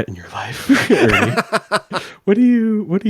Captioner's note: laughs